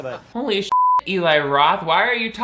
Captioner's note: beep